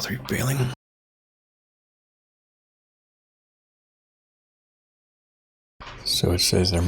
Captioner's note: blank Audio